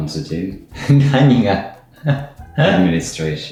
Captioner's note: laughs